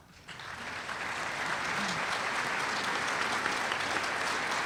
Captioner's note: applause